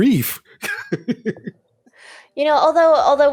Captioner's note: laughing